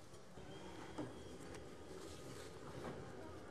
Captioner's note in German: none